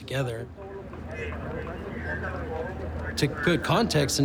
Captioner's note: people talking in background